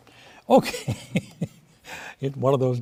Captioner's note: laughs